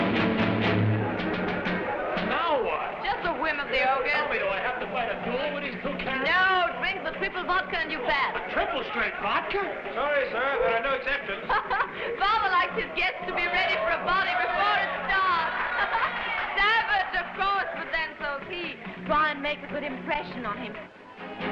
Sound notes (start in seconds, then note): 11.5 Raina laughing; 15.5 crowd cheering and applauding